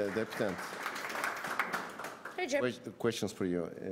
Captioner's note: applause